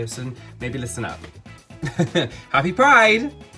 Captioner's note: laughing